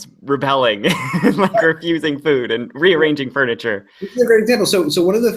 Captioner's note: laughs